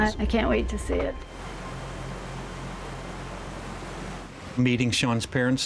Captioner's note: water splashing